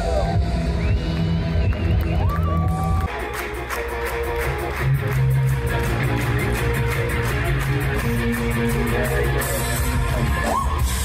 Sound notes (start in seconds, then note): 0.0 cheering; 10.0 cheering